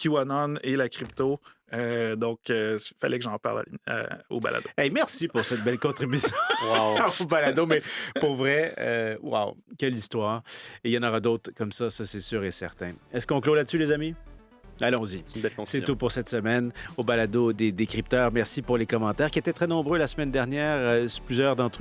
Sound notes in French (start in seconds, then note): 5.3 rires